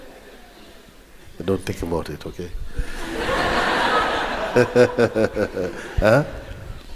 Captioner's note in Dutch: gelach